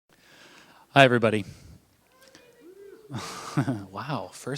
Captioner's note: shouts from audience